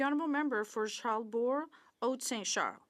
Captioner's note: speaking French